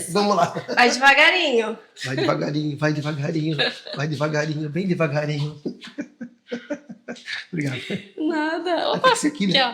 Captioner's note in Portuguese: risadas